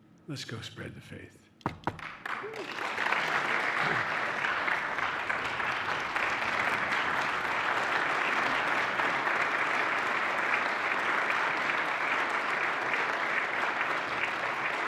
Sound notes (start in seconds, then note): 1.7 applause